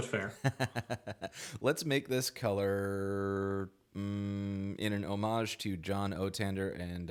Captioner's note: laughs